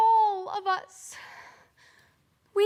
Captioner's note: soft breathing